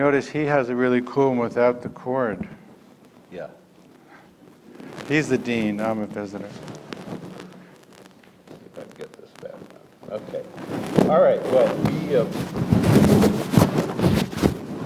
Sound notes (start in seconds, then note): 8.7 dean mumbles; 13.6 static